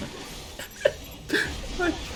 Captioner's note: sob